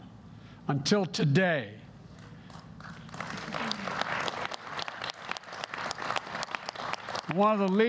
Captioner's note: applause